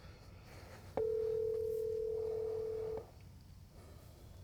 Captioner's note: phone ringing